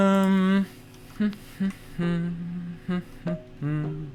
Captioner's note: humming